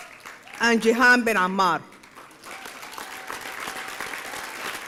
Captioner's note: applause